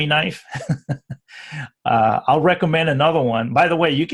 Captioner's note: laughs